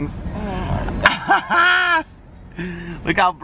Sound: laughing

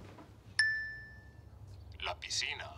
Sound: phone dings; phone speaks Spanish

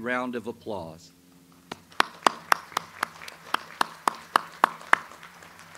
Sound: audience applauds

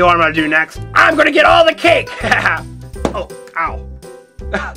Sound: laughs

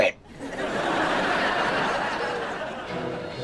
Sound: laughing

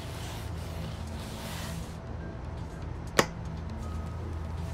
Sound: none

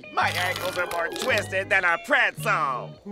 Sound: retching

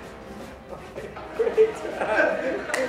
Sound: laughter

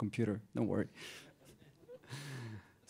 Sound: laughs

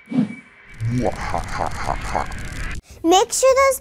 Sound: announcer laughs

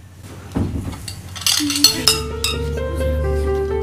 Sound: utensils clattering

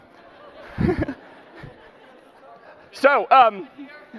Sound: laughs

